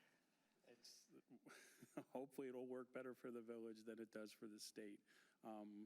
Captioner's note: laughter